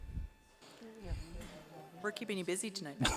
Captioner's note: overlapping chattering